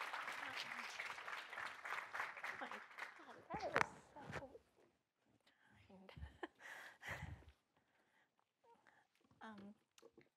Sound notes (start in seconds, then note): 1.7 speaking softly